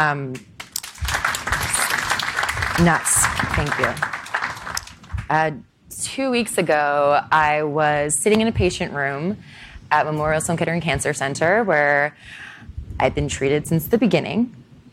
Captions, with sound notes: (applauding) Nuts. Thank you. Two weeks ago I was sitting in a patient room at Memorial Sloan Kettering Cancer Center where I've been treated since the beginning.